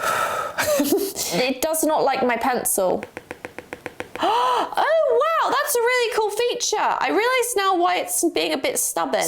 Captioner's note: gasp